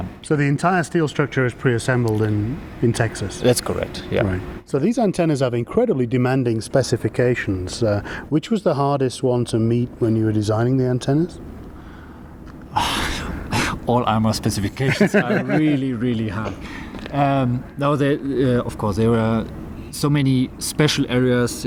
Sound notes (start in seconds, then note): 12.7 laughs